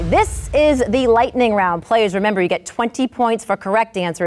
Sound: none

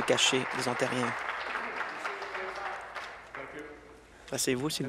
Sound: applause

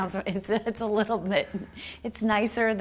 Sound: laughing

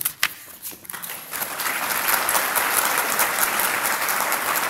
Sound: audience applauds

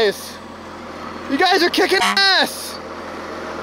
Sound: honk

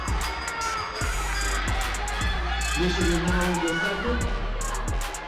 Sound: crowd excitedly cheering

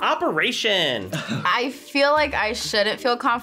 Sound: laughs

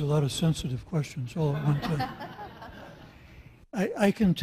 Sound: audience laughs

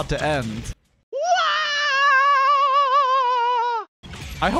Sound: Sound clip of Mario screaming "as if his life is about to end"

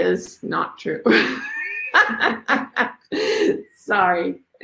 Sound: laughs

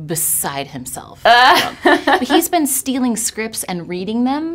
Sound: laughing

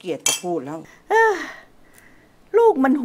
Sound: sighs

